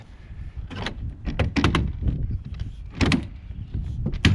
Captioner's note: metal clanking